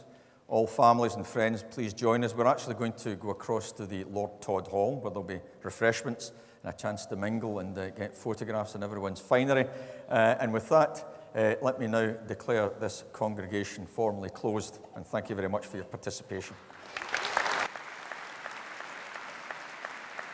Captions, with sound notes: All families and friends, please join us. We're actually going to go across to the Lord Todd Hall, where there'll be refreshments and a chance to mingle and get photographs in everyone's finery. And with that, let me now declare this congregation formally closed, and thank you very much for your participation. (APPLAUSE)